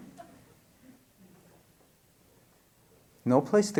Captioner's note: laughter